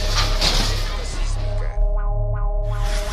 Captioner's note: seismic alert